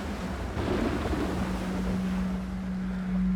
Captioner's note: thunder crashes